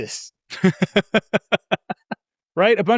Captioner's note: laughs